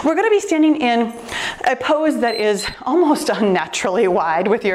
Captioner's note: timer beeps